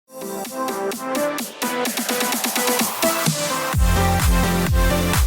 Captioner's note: clap